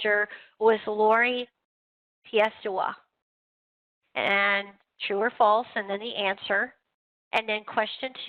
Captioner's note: non-english speech